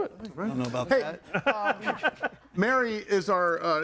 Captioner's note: laughs